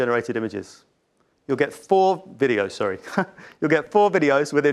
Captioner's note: chuckles